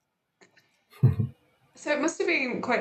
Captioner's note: chuckles